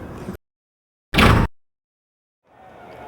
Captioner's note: sound FX